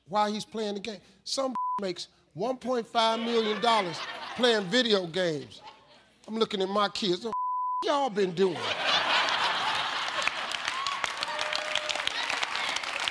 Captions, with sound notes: while he's playing the game. Some (beep) makes $1.5 million, playing video games. I'm looking at my kids, "The (beep) y'all been doing?" (audience laughs and applauds)